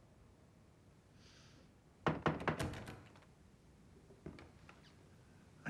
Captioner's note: la porte s'ouvre en grinçant